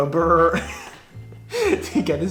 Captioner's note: laughs